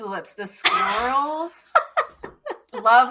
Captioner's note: chuckles